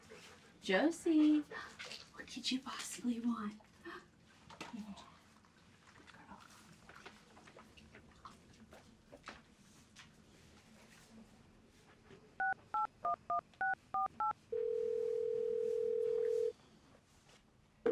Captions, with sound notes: Josie. What could you possibly want? (phone dialing and ringing)